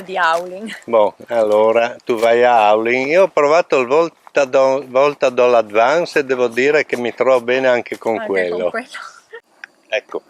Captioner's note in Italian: discorsi tra anziani